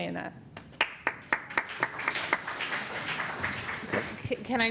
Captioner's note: applause